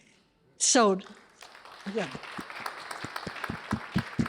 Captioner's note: applause